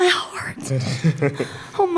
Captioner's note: laughter